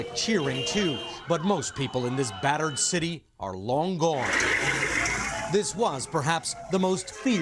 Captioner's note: cheers